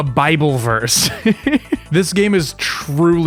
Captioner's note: chuckle